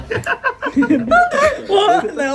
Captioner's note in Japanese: 高い声で